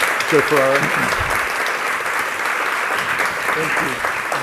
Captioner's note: audience applauding